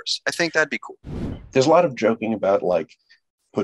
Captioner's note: air whooshing